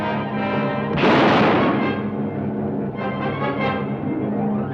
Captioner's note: gun fires